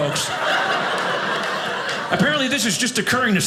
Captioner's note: audience laughing